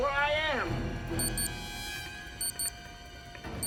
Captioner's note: beeping